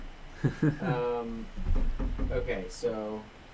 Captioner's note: laughs